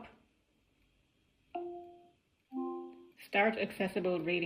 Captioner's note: device chimes